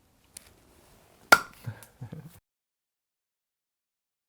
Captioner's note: handshake, laughing